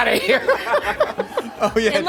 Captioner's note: laughing